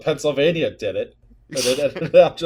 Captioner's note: laughter